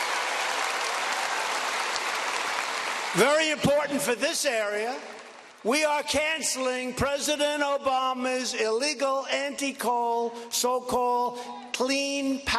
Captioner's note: cheers and applause